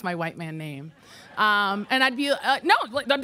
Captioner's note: audience laughing